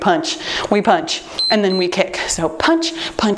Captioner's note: timer beeps